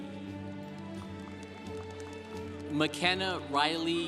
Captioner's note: congregation applauding